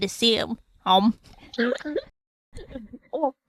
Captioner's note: laughs